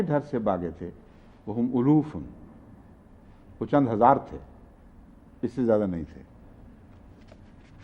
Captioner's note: Arabic